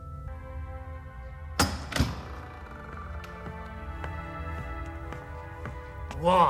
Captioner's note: door opens and footsteps approach